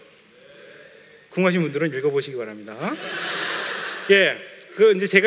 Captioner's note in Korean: 웃음